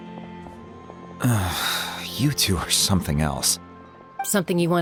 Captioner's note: sigh